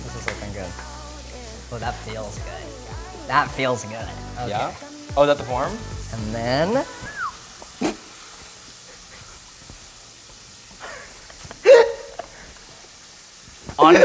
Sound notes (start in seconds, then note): 7.0 whistle; 8.0 snorts; 10.9 laughing